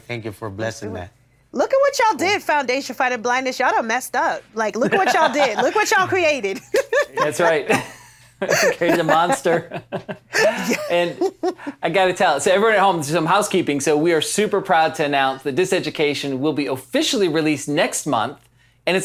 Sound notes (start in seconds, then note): 4.8 laughs; 8.3 chuckles